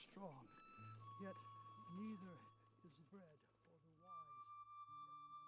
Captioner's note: voice fades